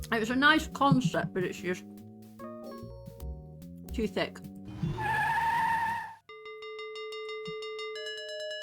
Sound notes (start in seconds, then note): 4.6 tyres screeching; 4.8 bell ringing